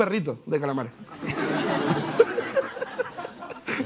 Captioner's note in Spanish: Risas